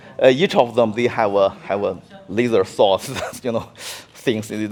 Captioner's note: laughing